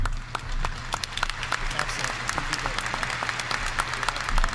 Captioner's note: audience applauding